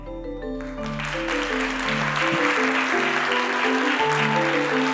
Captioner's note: applause